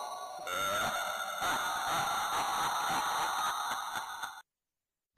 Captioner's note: evil Laugh